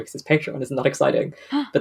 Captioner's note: gasps